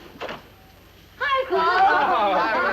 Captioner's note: door opening; mixed chatter